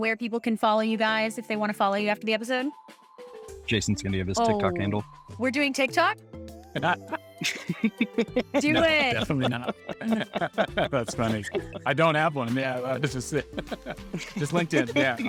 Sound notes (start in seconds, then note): 7.4 laughing